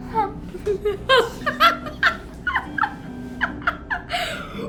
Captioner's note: laughter